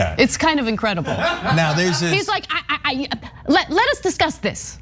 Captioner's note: laugh